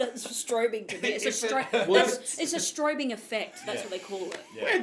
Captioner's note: laughing